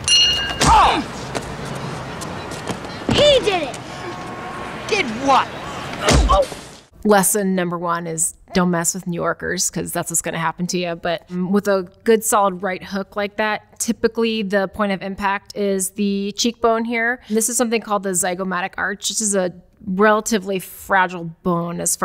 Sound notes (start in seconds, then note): 0.0 bell dings; 0.7 Marv grunts